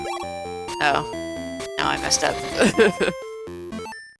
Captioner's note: laughs